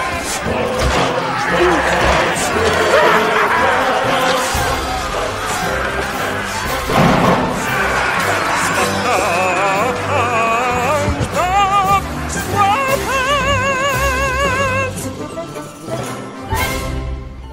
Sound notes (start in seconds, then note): 6.6 banging; 6.6 pirates shouting